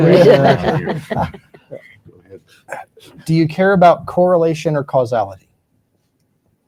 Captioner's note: laughter